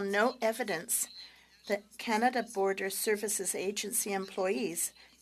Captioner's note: speaking French